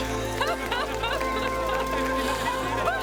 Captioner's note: crowd